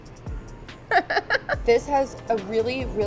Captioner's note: laughs